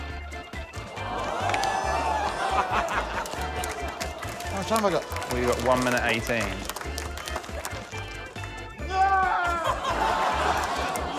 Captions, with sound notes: (AUDIENCE EXCLAIMS) How much time have I got? - You've got 1.18. - Aargh!